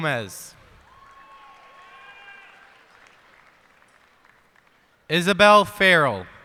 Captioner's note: cheers and applause